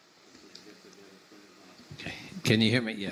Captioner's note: speaking off-mic